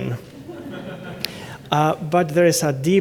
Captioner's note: laughter